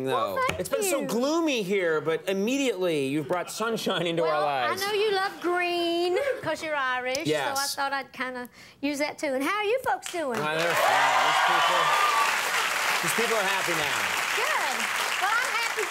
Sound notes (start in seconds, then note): 10.4 audience cheering